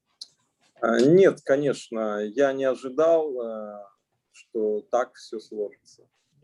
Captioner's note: speaking Russian language